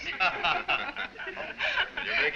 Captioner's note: all laugh